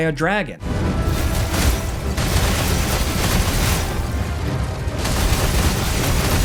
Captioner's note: dramatic music; weapons clanging